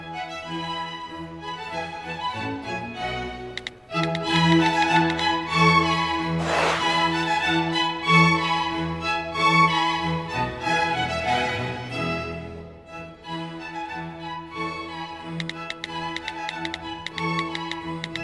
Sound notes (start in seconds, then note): 6.3 swooshes; 16.0 keys click